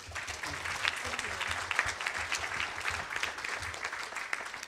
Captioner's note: audience applauds